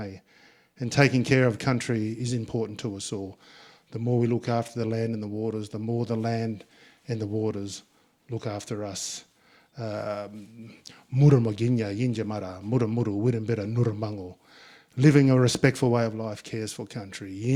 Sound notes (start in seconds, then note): 11.3 speaking in Ngunnawal; 17.3 speaking in Ngunnawal